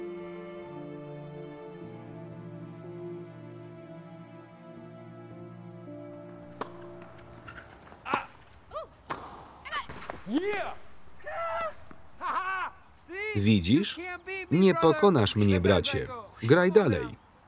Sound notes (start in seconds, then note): 5.6 tennis being played; 15.0 foreign language